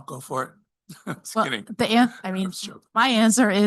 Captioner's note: chuckles